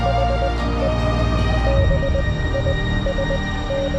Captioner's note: signals beep; engaging dramatic music